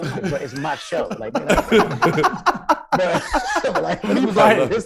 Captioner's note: hosts laughing